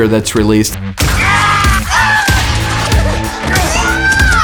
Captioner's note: screaming